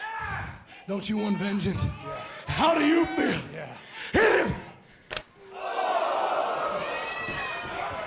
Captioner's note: crowd cheering